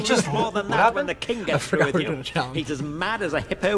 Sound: laughs

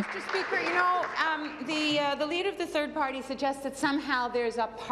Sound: applause

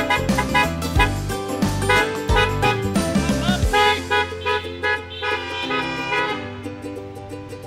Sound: car horn honks

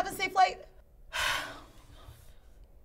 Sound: sigh

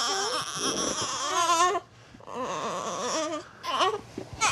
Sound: baby crying

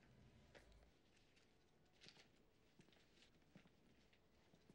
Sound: paper crinkling

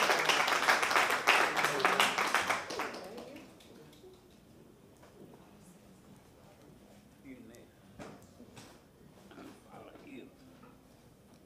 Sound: applause

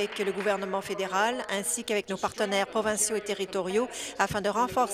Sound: applause

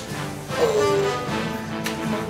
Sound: grunt

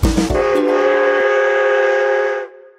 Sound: train whistles

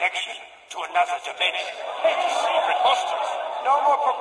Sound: crowd begins conversing again

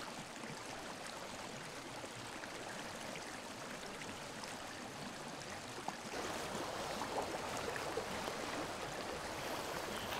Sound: water streaming

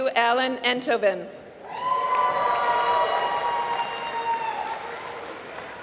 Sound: applause

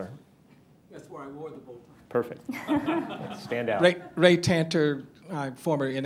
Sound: laughter

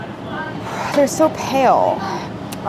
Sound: sighs

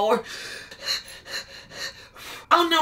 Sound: lamaze breathing

